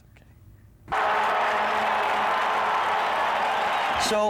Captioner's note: cheering